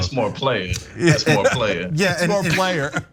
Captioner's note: laugh